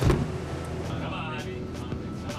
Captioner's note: small explosion